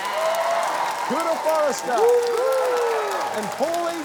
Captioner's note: cheering, applause